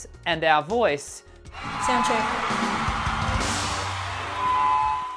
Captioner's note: crowd cheering